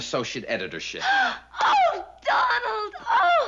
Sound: gasps

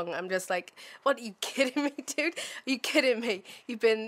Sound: laughs

